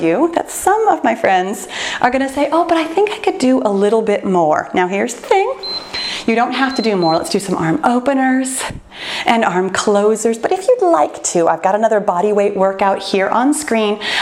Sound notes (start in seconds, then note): 5.5 timer beeps